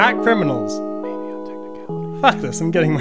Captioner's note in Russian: шёпотом